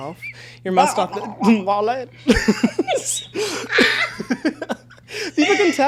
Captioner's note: both laughing